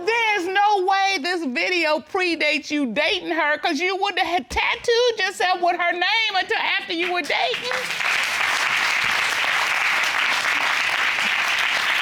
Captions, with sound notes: There's no way this video pre-dates you dating her because you wouldn't had tattooed yourself with her name -until after you were dating. -[audience applauds]